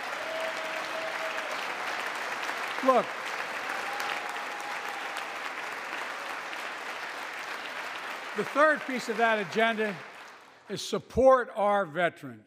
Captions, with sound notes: (Applause.) The third piece of that agenda is support our veterans.